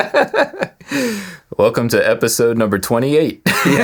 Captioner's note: laughing